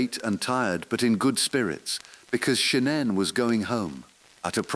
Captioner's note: exhale